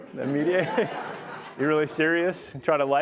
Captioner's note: audience laughs